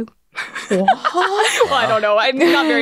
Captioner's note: laughs; gasps